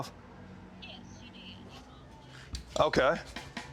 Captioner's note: phone